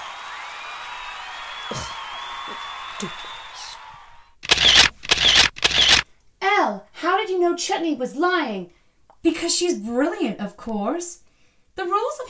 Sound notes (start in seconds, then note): 0.0 audience cheering; 4.4 camera snapshots; 4.4 scoffs